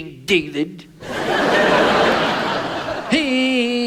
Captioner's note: audience laughs